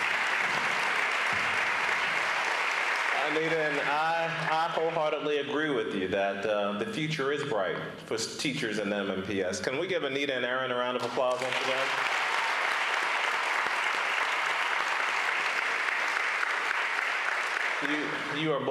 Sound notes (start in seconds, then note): 2.4 applause